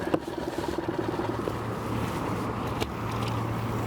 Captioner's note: motor droning